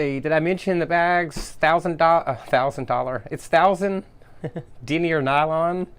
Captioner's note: laughs